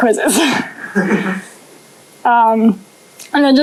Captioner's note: laughter